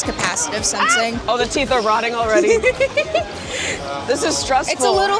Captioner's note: laughter